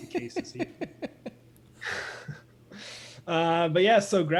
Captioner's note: laughter